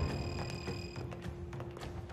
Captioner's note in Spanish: Pitidos